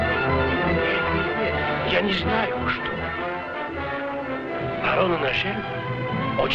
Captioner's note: men speaking foreign language